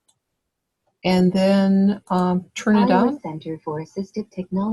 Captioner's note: voiceover